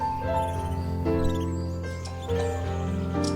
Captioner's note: birds chirping